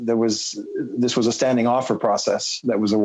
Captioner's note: speaking French